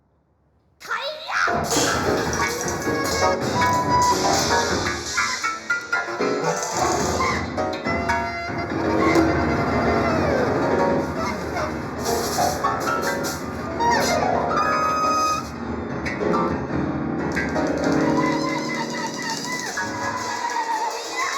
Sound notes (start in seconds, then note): 0.9 Liza screams; 2.1 chaotic music; 18.1 Adrian screaming